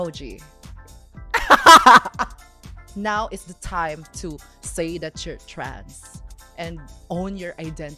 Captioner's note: laughs